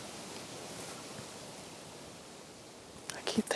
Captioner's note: whispering